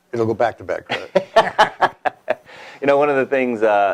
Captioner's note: laughs